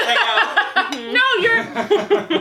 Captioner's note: laughs